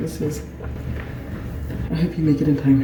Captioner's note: someone is booking it down the road